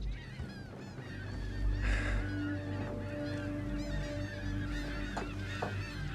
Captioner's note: seagulls continue mewing